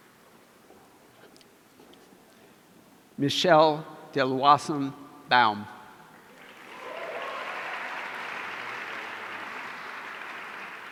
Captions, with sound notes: Michelle Deloison-Baum. (audience applauding)